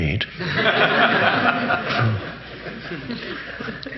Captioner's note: audience laughing